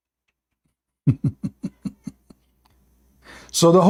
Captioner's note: Ketawa